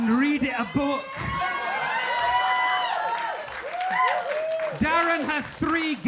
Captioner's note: audience cheering